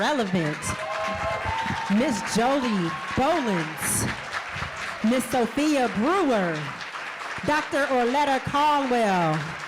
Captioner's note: cheering and applause